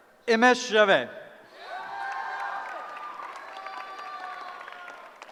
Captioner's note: cheering